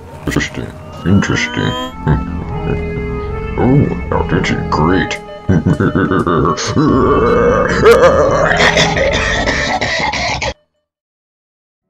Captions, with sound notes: Interesting, interesting... (laughs) Oh! Now this is great! (maniacal laughter) (coughing fit)